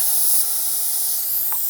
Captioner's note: air compressor whirring